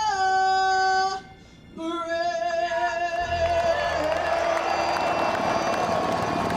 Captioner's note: helicopters Whirring